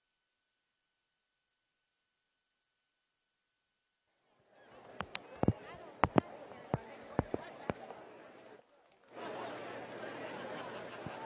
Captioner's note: indistinct chatter